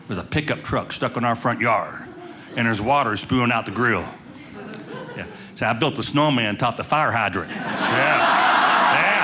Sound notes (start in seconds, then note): 4.4 audience laughing; 7.4 audience laughing